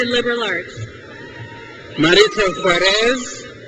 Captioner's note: crowd cheers